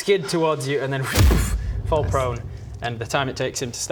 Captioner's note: boof